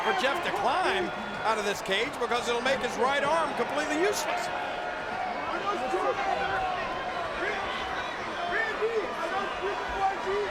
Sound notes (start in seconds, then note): 4.8 audience chattering